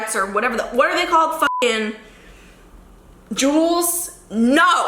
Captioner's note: beep